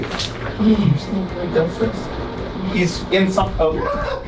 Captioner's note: whispering sounds; laughter